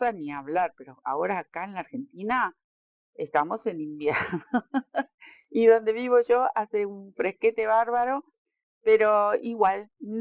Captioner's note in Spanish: risas